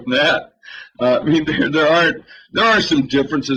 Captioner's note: laughter